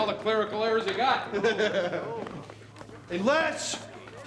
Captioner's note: laughing